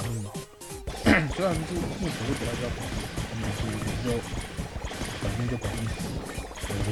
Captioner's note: cough